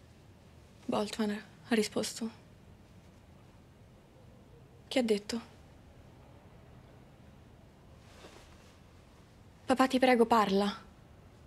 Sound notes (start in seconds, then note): none